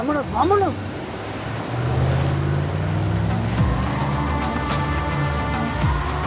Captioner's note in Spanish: Ruido del vehículo